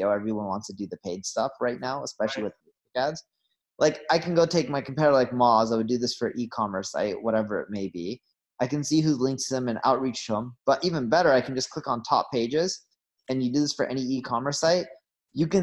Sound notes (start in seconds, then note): 2.8 audio cuts out